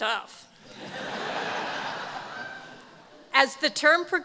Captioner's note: laughter